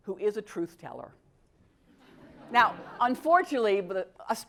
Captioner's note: laugh